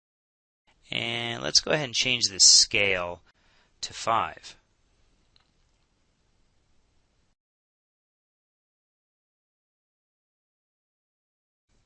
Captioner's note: silence